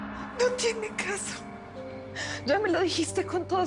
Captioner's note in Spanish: Sollozando